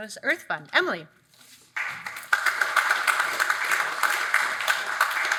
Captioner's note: audience applauds